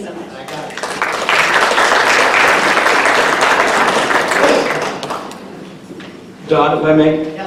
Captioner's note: applause